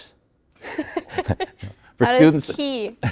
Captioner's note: both laughing